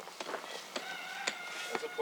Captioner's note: rooster crowing